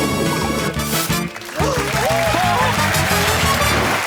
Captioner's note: gasps